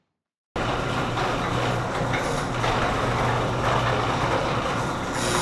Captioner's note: electric garage door opening